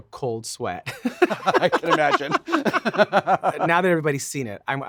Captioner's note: both laughing